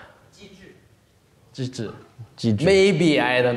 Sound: student speaks in a foreign language

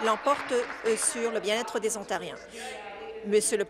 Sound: applause

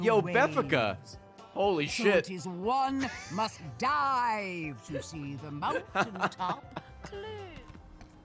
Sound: laughs

